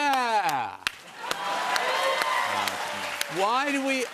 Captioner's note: cheers and applause